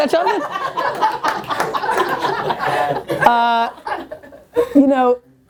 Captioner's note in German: Lachen und Klatschen